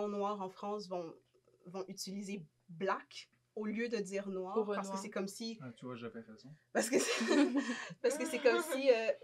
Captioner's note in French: rires